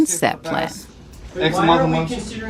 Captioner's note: soundbite of archived recording